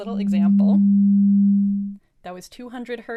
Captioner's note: frequency sound